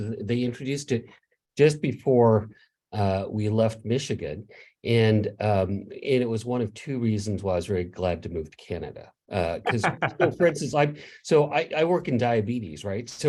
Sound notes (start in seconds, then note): 9.4 laughs